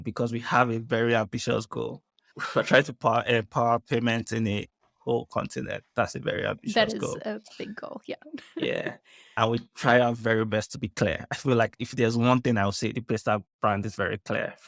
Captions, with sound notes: because we have a very ambitious goal. We're trying to power a PAR payment in the whole continent. That's a very ambitious goal. - That is a big goal. Yeah. (chuckles) - Yeah. I would try our very best to be clear, I feel like if there's one thing I would say, the Paystack brand is very clear